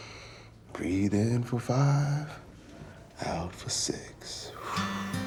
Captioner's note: exhales; soft music